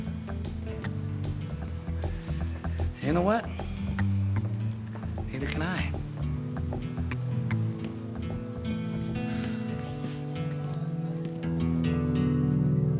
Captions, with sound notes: You know what? Neither can I. (sighs)